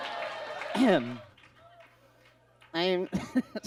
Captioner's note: clears throat; laughs